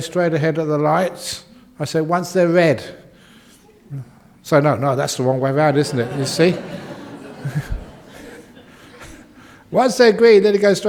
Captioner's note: laughter